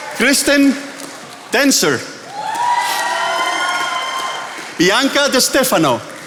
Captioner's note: attendees applauding; attendees applauding